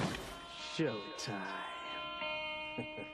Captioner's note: laughs